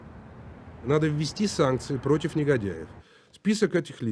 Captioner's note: Boris Nemtsov speaking Russian